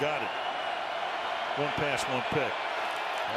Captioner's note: cheering